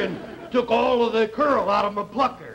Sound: audience laughter

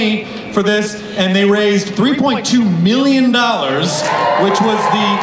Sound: crowd cheers

